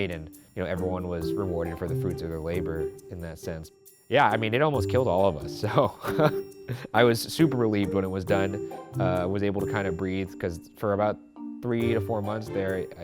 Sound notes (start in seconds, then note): 5.6 chuckles